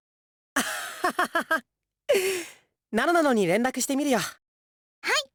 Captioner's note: laugh